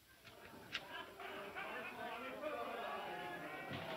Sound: men chattering

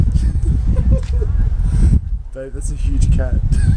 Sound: both laughing

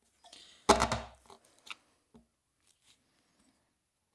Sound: hand tool scrapes

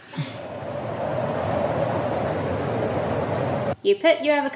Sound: humour void whooshing

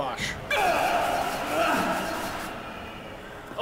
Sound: argh!

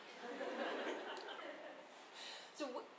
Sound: audience laughing

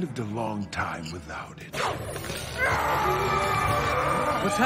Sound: screaming

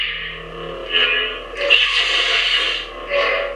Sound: sound effects

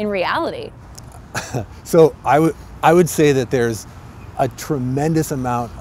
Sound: laugh

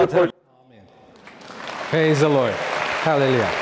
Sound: audience clapping

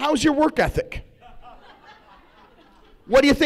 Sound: laughs

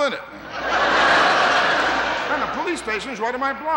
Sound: audience laughing

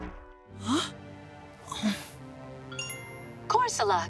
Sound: chimes

